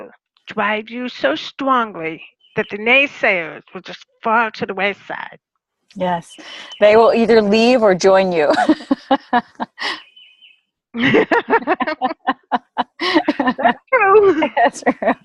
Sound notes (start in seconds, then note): 8.8 laughter